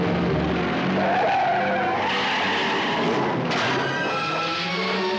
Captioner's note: tires screeching